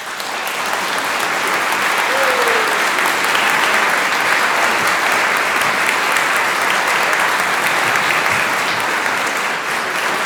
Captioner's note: applause